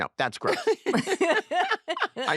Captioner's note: all laugh